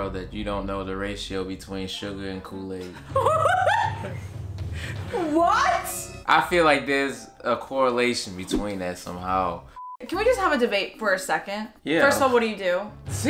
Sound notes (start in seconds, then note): 2.9 laughing; 9.8 beep